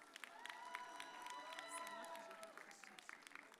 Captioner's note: audience cheers